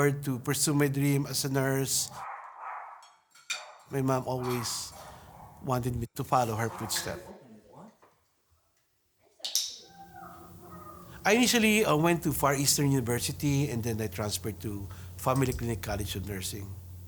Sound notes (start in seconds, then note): 2.1 dogs barking; 3.0 utensils clinking